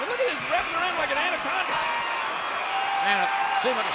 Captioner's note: crowd cheering